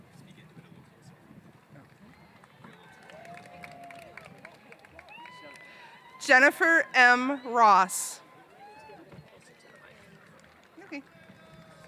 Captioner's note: applause